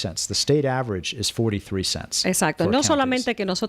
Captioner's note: Hablando ingl\s